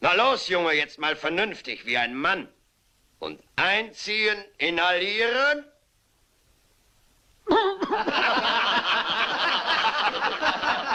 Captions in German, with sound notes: Los, Junge. Rauch es, rauch es. Zieh daran. Zieh daran. - [hustet] - [lacht]